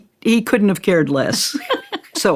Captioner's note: laughs